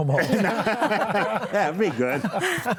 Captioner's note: panelists laugh